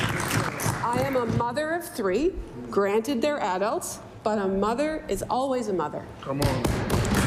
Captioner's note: applause